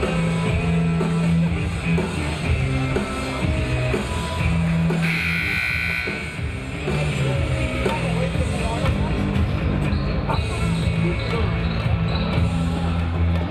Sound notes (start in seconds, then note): 5.0 buzzer buzzing